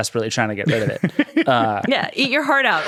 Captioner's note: laughing